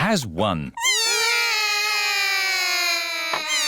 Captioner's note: all cry